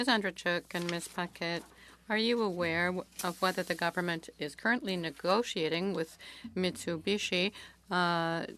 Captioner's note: speaking French